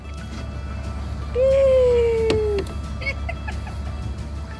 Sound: is laughing

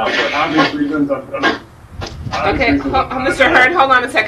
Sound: speaking off mic

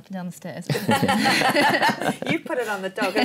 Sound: laughter

